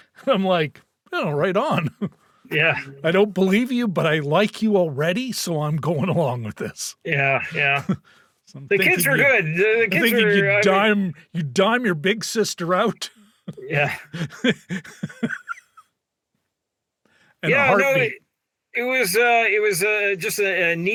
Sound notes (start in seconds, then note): 16.1 laughing